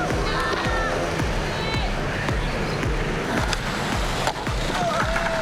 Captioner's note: yelling